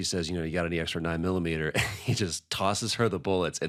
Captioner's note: chuckles